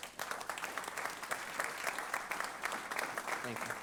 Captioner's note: applause